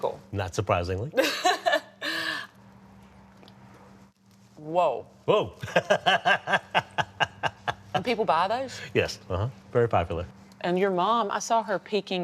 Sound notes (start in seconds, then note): 1.1 laughs; 5.6 laughs